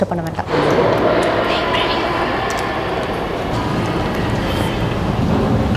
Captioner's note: in husky voice as a need of silence